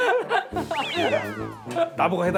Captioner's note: haha